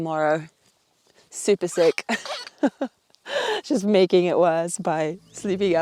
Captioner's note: laughs